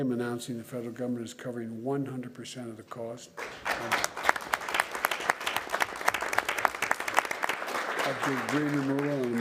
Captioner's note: applause